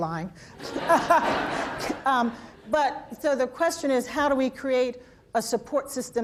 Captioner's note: laughter